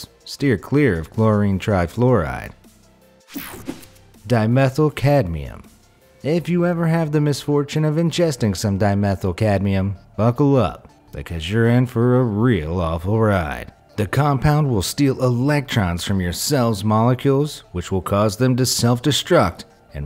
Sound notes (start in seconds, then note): 3.2 image whooshing